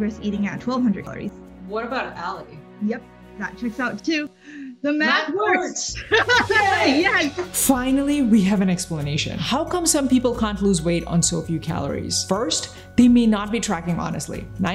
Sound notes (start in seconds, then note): 5.9 both laughing